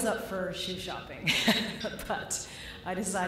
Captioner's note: laughter